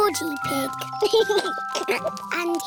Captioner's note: giggles